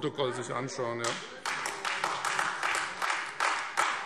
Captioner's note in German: Beifall Freie Demokraten und vereinzelt AfD